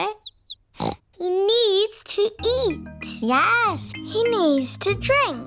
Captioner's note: snorts